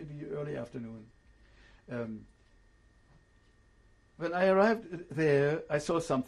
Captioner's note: pauses for 3 seconds